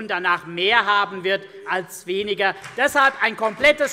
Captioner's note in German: Beifall CDU und BÜNDNIS 90/DIE GRÜNEN